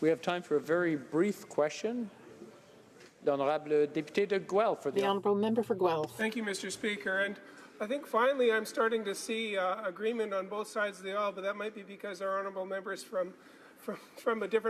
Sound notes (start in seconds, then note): 6.3 speaking French